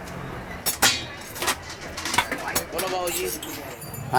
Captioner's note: metal clanging